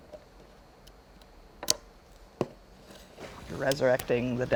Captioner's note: string snaps